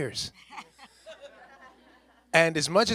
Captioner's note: people chuckling